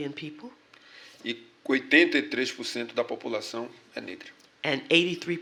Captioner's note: speaking portuguese